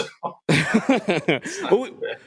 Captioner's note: laughter